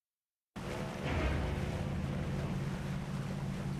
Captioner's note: water splashing